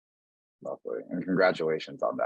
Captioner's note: chuckling